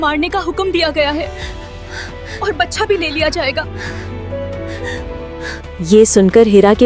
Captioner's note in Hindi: रोने की आवाज़